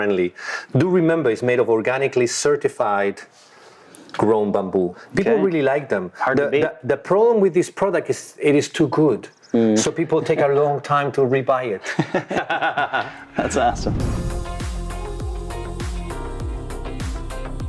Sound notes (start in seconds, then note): 11.8 both laughing; 12.9 upbeat music playing